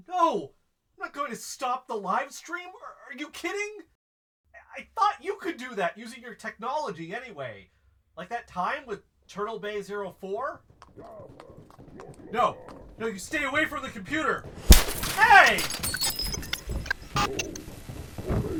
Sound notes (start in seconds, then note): 9.6 hoof steps; 10.0 voices, thundering steps getting closer; 14.5 THWAP! Computer breaks; 16.1 stomping up stairs